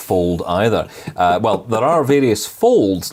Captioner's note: laughing